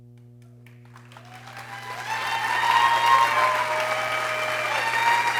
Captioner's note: people cheering